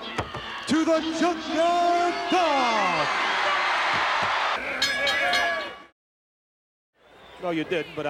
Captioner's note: applause